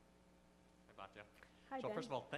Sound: voiceover

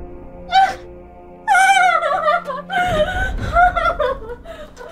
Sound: crying

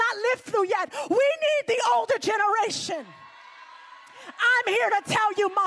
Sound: congregation cheers

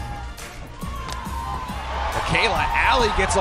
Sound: crowd Cheering; ball connecting with bat

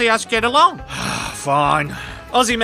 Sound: sigh

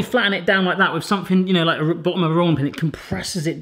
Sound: murmurs

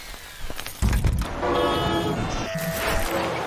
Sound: Traffic

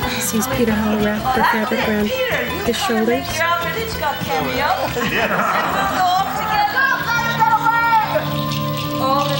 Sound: laughter

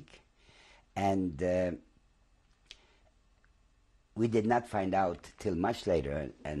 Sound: pauses for 3 seconds

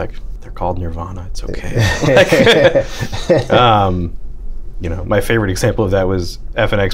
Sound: laughter

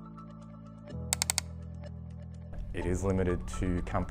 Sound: clicking

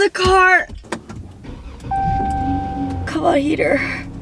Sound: car engine starting

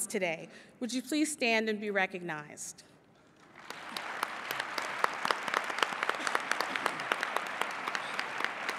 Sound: applause

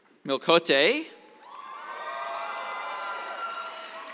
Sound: cheers

